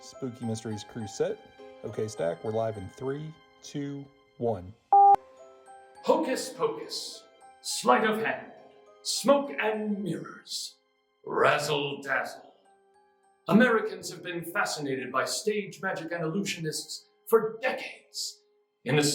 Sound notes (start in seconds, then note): 4.9 beep